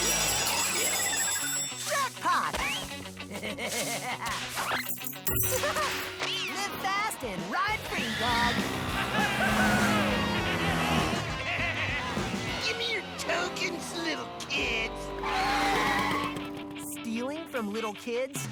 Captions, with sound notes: JACKPOT! (LAUGHING) LIVE FAST AND RIDE FREE DOG! (LAUGHING) WHOOOHHOOOO! (LAUGHING) GIMME YOUR TOKENS, LITTLE KIDS. (SQUEAL TO A HALT) STEALING FROM LITTLE KIDS, NOT ON MY WATCH.